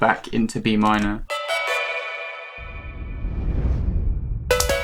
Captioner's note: tubular bell sounds